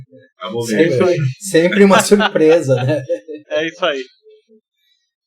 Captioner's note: laughs